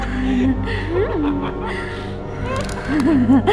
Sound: binx laughs wit h excitement

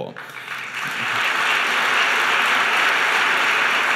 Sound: applause

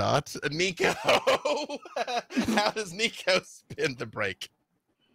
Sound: laughs

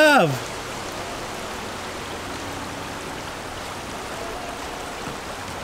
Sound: river water running

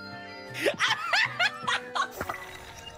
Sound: laughing

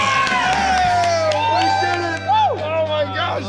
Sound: cheering

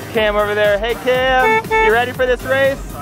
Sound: horn honks

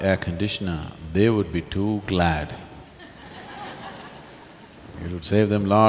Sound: laughter

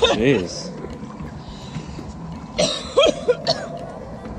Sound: coughs

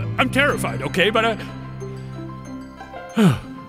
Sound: sighs

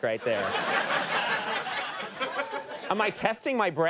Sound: laughter

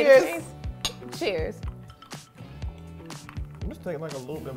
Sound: glass clinks

